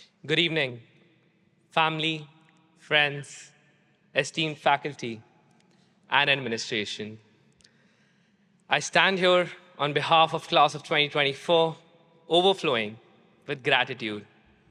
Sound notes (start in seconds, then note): none